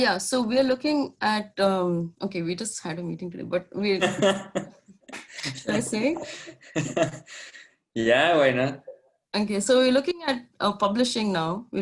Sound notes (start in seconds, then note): 4.0 laughter